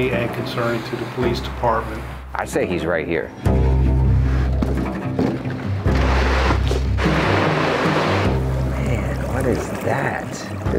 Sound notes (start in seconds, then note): 3.2 suspenseful music; 5.9 gear scraping; 6.1 suspenseful music continues